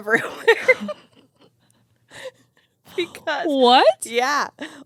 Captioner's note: both laughing